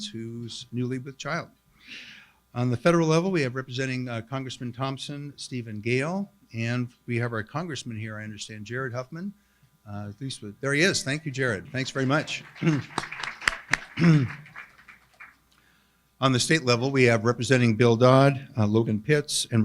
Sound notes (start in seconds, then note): 11.6 applauds with crowd